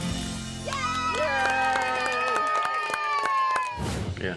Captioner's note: everyone cheers, claps